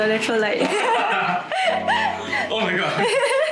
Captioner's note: laughter